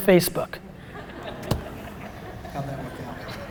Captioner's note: laughter